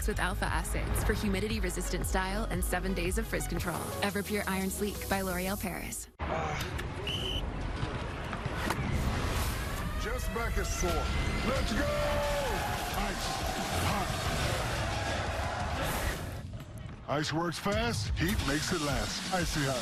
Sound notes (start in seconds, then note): 7.0 whistle blows; 14.2 chanting